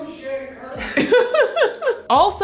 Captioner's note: laughing